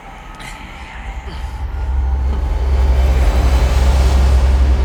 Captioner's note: panting continuously